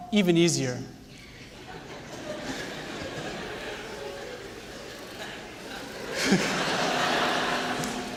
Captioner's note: laughter